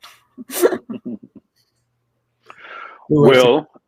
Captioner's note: giggle